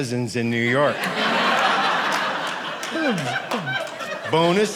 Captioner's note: audience laughing